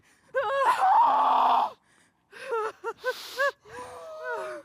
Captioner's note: sobbing